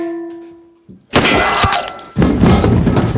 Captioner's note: frying pan thuds; gun fires; bullet clangs; frying pan thuds